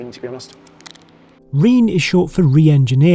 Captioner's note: wrapper crinkling